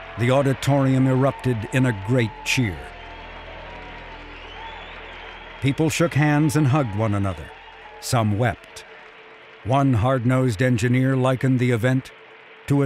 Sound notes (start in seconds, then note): 3.7 people clapping; 3.7 people whistling